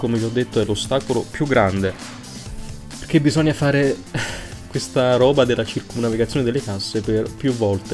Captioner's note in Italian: risata